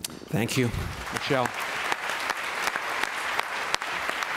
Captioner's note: applause